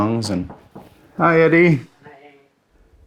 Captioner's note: knocking